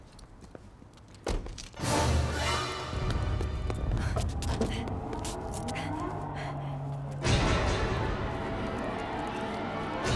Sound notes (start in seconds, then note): 1.4 door slams; 3.8 woman panting; 4.6 footsteps shuffling